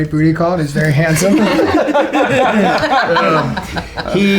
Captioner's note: laughter